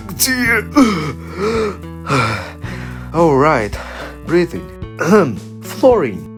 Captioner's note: intense breathing; clears throat